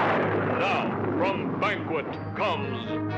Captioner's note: thunder crashing